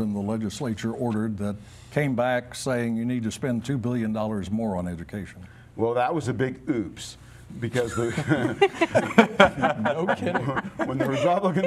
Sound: laughter

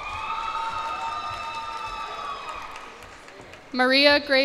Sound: cheers and applause

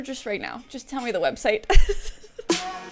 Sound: laughs; bass boosted wild music

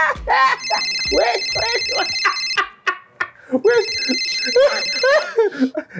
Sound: phone ringing

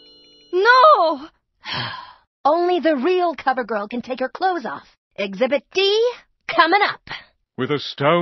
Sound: sighs

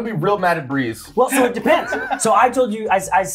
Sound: laugh

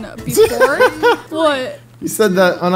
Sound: laughing

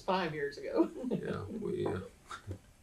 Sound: laughs

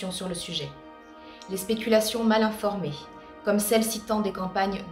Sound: speaking French

